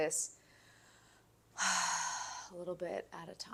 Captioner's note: sighs